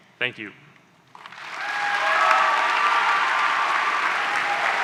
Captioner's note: applause